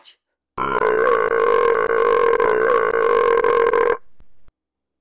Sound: belches loudly

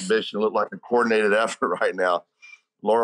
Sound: giggling; interviewer laughs

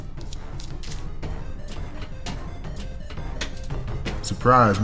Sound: cow footsteps; metal clanging

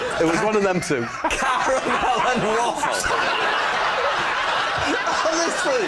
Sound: laughter

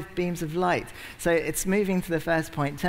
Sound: none

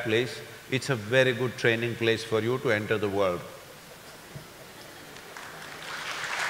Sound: laughter/Applause

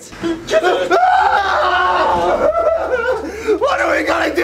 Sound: both scream

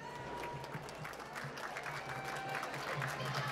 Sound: applause

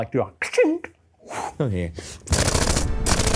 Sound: mimics grenade clicking and whooshing; machine gun firing

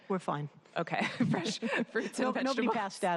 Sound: laughter

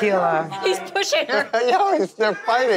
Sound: laughs

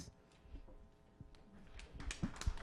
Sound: applause

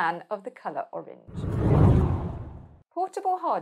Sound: screen whooshing

